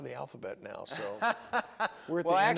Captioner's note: laughter